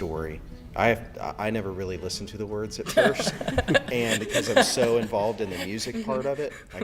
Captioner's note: laughter